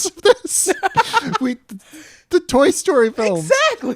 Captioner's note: laughter